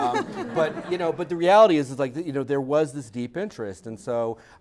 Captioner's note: laugh